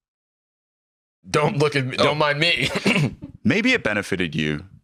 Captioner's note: clears throat